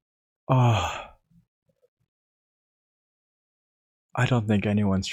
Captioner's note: sigh of relief